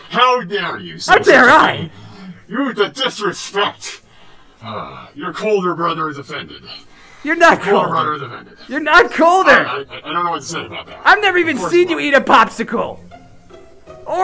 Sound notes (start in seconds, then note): 4.7 Bi-Han Sighs